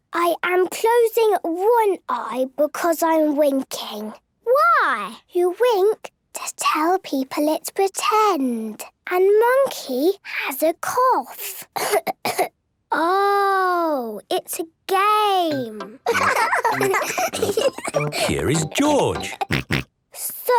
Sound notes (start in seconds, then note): 11.8 pretending to cough; 16.0 laughs; 19.5 snort